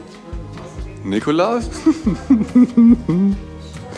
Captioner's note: giggles